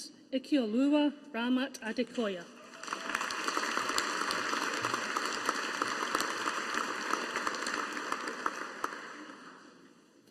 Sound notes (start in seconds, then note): 2.6 audience applauding